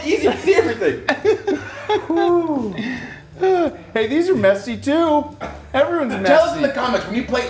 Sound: laugh

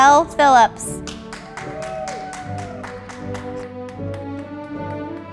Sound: audience applauding

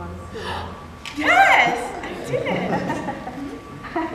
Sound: gasp

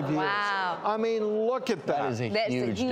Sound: audience reacting

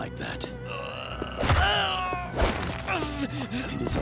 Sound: groaning

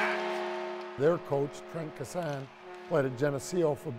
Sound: horn

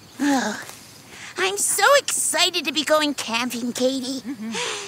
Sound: sighs

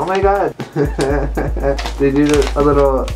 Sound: laughter

